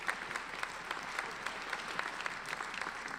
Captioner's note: applauding